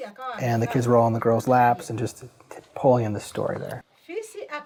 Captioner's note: foreign Language